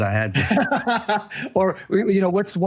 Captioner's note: laughing